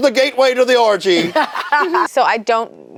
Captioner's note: laughs